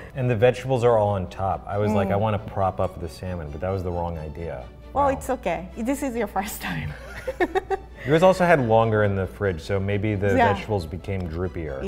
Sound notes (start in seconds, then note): 7.1 laughs